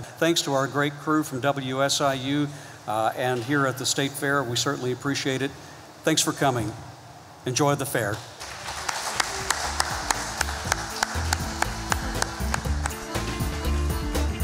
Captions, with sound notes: Thanks to our great crew from WSIU, and here at the State Fair. We certainly appreciate it. Thanks for coming. Enjoy the fair. (audience clapping) (joyful music)